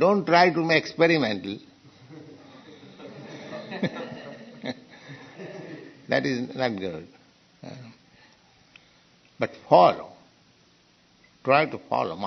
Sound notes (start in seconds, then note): 2.1 laughter; 5.3 laughs